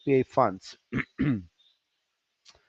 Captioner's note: clears throat